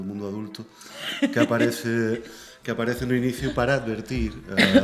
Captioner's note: laughter